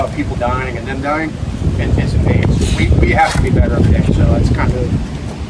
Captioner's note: speaking faintly